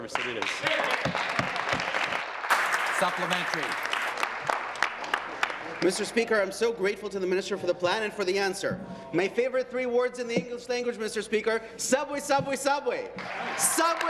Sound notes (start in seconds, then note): 6.2 applause